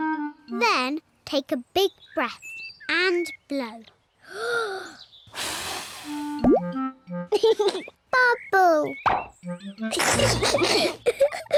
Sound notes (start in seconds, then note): 5.2 takes big breath and blows; 7.4 laughs; 9.9 both giggle